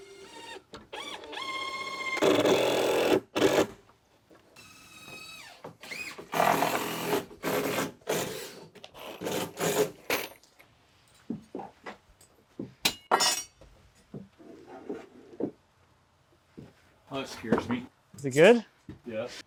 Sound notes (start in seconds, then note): 0.9 drill whirring; 12.9 tools clanking